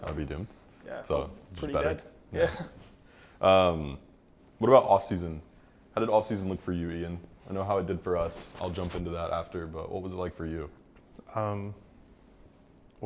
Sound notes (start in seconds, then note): 2.4 laughs